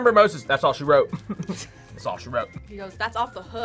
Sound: laughs

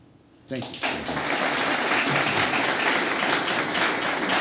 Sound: applause

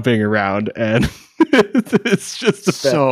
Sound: laughing

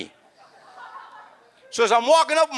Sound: audience laughs

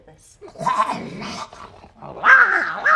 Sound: snarls animalistically

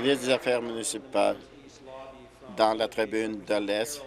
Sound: applause

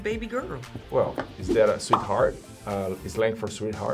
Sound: bubble pops

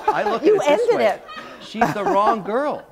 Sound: laughter

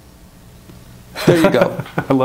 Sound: laughs

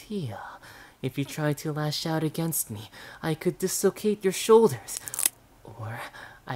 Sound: crack

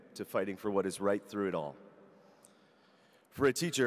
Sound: none

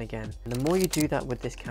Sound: shutter clicking

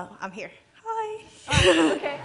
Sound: chuckles

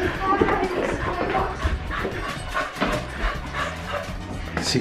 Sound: Logan panting

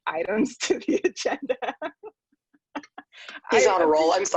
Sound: laughing

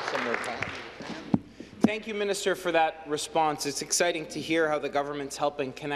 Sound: applause

